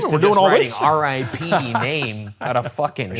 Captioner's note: laughs